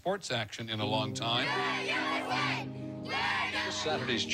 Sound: cheering USA

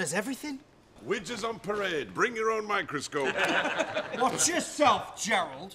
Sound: laughter

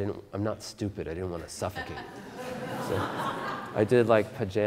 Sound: audience Laughter

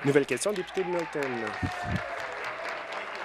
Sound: applause

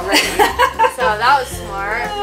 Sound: laughs

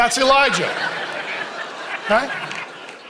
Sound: congregation laughing

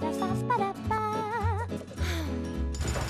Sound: humming

